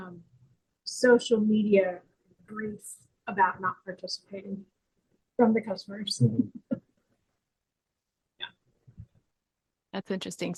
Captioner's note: laughing